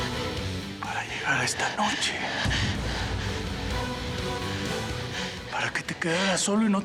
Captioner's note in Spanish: susurra